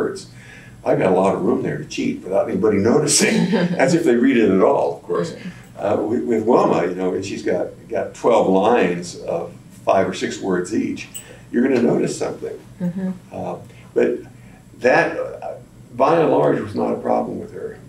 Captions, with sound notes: I’ve got a lot of room there to cheat without anybody noticing. (Laughter) That’s if they read it at all, of course. With Wilma, she’s got twelve lines of five or six words each—you’re going to notice something. But that, by and large, was not a problem with her.